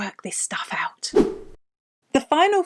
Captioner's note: air whooshing